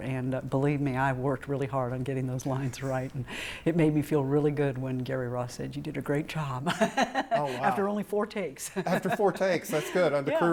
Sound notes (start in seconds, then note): 6.7 laughs